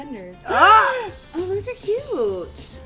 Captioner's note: gasps